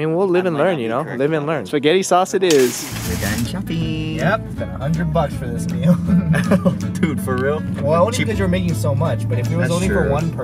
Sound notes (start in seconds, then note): 3.3 high voice